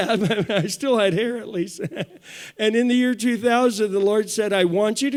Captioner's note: chuckles